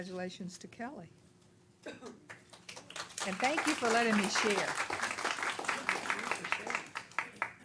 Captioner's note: applause